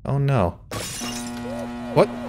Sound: window shattering

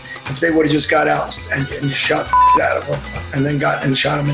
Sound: beep

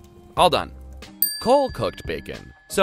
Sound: dings

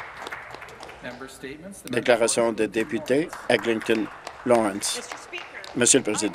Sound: applause

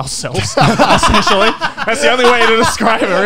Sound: laugh

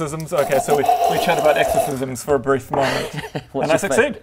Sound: kccrrggrrrggrgrgggg

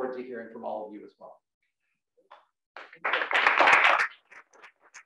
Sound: applause

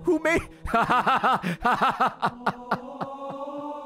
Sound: laughs

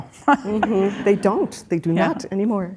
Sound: chuckles; audience laughing

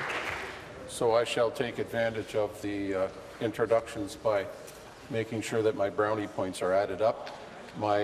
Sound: applause

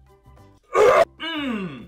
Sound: gags

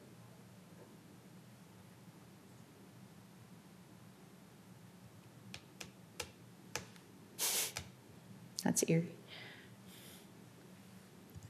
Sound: loss of audio

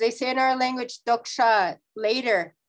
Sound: speaking in foreign language

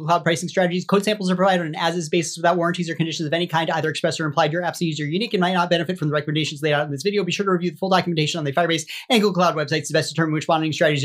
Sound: speaking super-quickly

